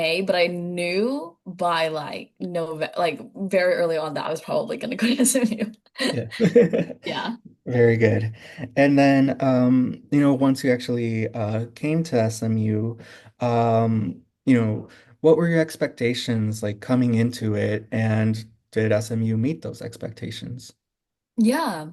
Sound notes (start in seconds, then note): 6.0 laughter; 6.0 laughing